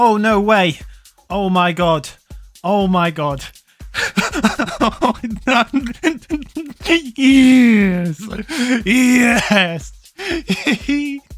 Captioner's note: hyperventilating